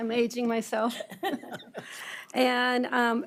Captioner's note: board members laughing